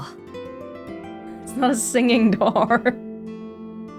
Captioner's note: chuckles